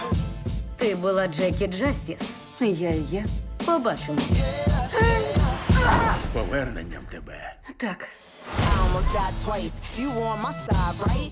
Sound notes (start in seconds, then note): 4.4 yells; 7.3 exhales